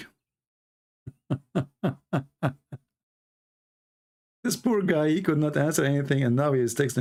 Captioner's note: Ketawa